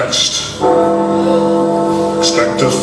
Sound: Big Ben tolls

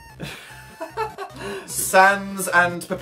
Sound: giggles

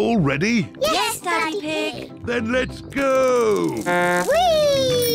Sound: blows horn

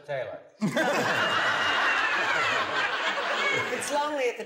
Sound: laughter

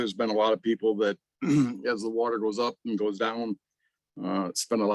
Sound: clears throat

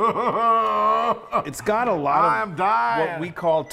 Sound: laugh

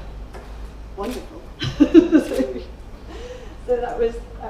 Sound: laughing

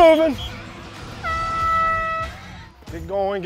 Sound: air horn blows

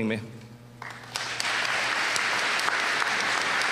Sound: applause

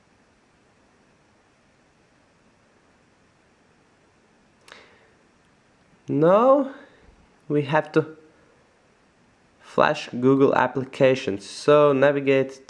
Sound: gapps

